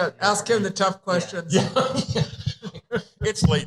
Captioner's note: laughter